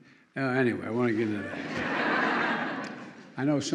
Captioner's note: laughter